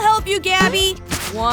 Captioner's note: boing